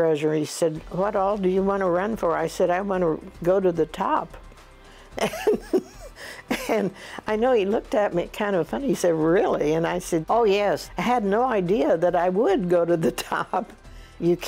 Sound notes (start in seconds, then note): 5.2 laughs